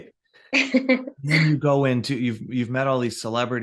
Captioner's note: chuckle